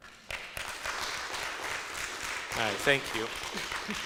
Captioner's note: audience applauds